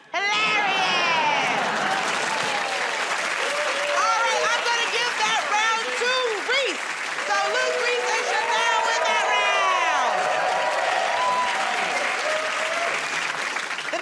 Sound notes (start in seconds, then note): 1.7 cheers and applause; 10.4 cheers and applause